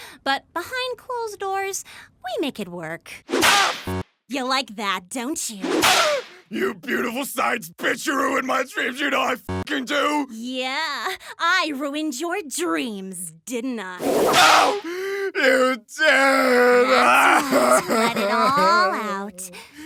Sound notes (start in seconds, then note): 3.3 loud whip crack; 5.8 whip cracking, Cid yelps; 10.6 seductively; 14.1 whip crack; 15.9 sobbing